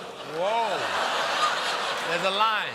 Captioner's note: audience reacts